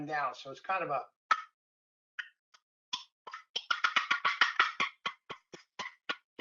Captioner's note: turkey call sounds